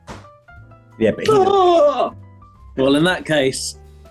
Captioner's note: wails